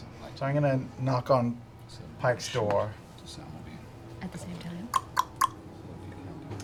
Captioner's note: knocking sound